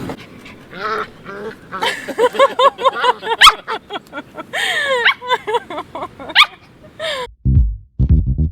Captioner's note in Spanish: Perros gruñendo; Risas